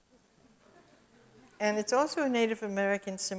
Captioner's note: audience chuckles